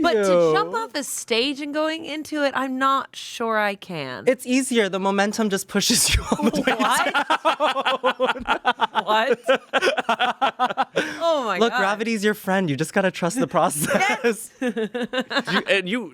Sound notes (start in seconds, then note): 6.1 everyone laughs; 13.5 Amanda laughs